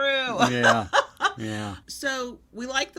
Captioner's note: laughs